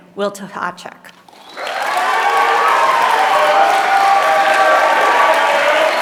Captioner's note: applause